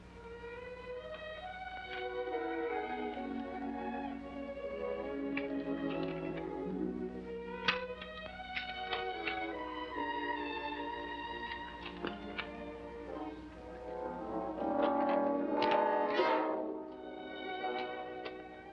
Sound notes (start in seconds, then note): 5.5 rustling sound